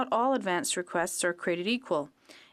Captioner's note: speaking french